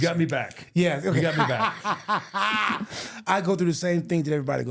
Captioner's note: laughing